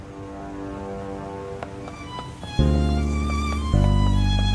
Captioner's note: footsteps